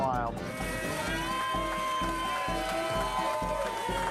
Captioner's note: cheering